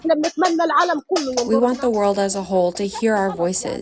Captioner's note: through translator